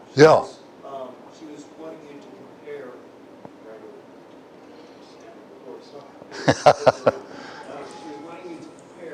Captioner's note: Смех